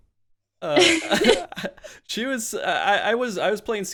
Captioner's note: laughs